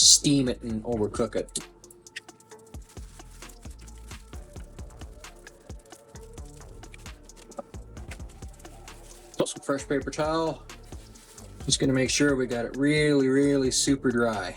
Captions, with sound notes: steam it and overcook it. [crunching] It's also fresh paper towel. Just going to make sure we got it really really super dry.